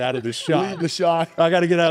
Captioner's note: laughs